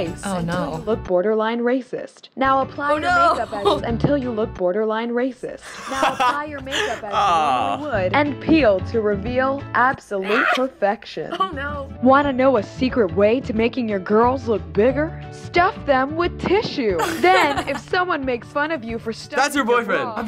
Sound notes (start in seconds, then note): 17.0 laughs